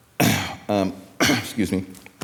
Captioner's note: clearing throat